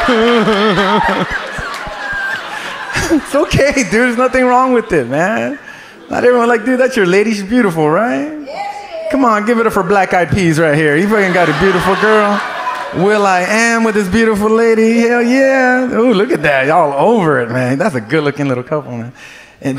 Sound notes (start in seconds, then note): 0.0 audience laughs; 10.9 audience laughs